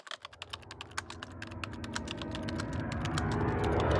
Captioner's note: typing